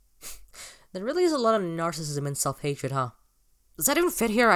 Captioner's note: snorts softly; breaths in through mouth